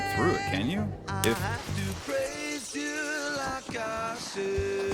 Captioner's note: shattering glass